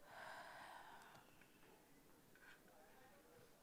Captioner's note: sighs